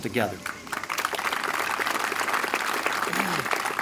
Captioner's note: applause